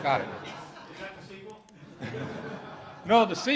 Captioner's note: voiceover; laughter